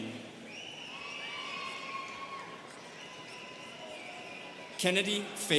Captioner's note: students cheering